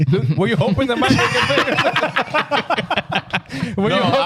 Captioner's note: laughing